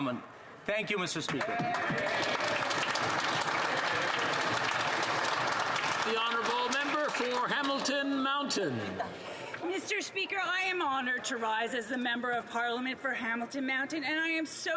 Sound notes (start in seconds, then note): 7.4 applause